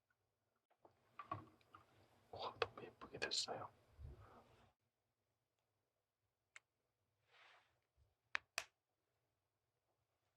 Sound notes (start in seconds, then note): 8.3 click